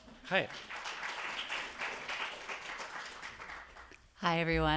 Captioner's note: attendees applauding